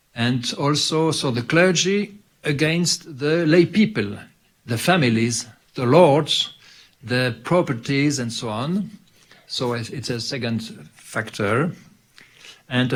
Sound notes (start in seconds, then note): none